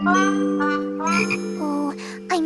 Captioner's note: croaks